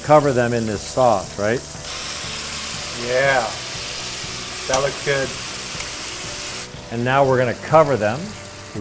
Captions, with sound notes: cover them in this sauce, right? (sizzling) - Yeah! That looks good. - And now, we're gonna cover them.